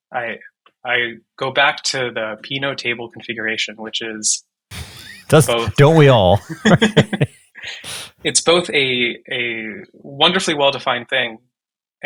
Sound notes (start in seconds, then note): 4.7 chuckles; 6.7 laughing